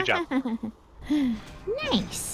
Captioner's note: giggles